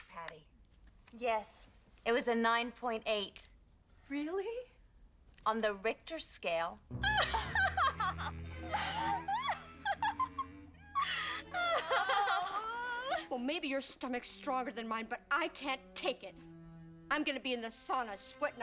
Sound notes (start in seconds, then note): 10.8 lahiugng cruelly